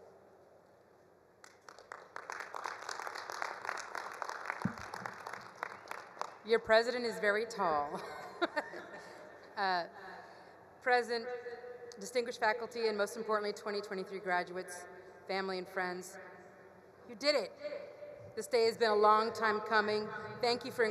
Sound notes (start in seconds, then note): 1.4 all applauding; 7.9 chuckles